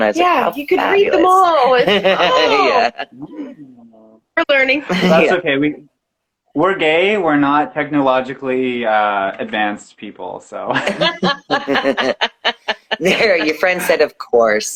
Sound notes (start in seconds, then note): 10.8 laughing